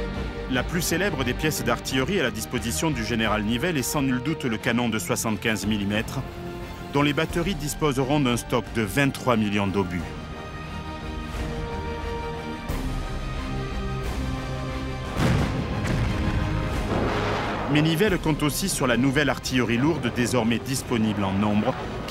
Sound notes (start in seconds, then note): 15.1 explosions; 15.1 cannon shots